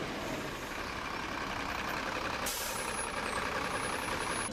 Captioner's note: screeching